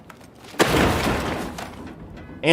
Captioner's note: crash